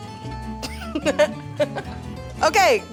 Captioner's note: laughing